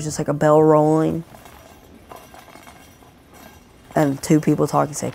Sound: sound of bells

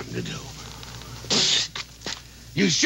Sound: Royal spitting

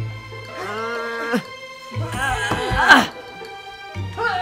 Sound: grunts

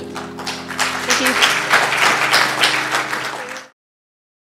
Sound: applause

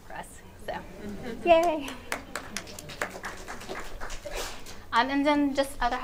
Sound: audience applauding

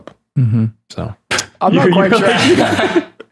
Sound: laughter

